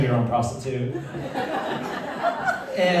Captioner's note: laughter